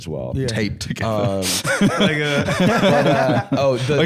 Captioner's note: laughs